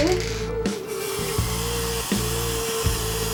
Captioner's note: spraying